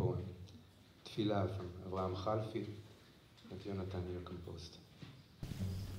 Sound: hebrew; invigorating music

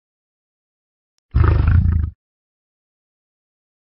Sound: growls

